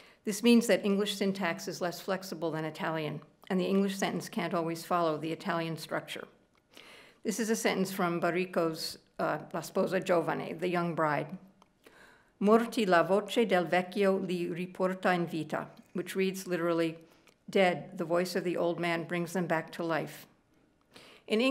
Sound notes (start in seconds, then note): 12.0 speaking italian